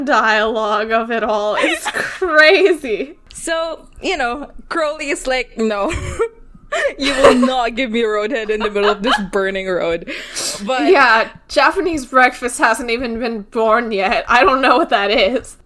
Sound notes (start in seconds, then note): 8.3 both laugh